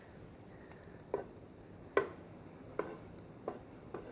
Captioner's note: pan sizzles